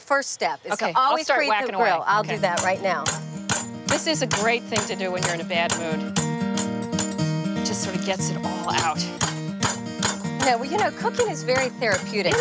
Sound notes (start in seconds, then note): 2.9 pounding chicken; 2.9 utensils rattling; 6.5 country music returns